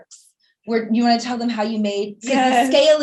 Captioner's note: giggling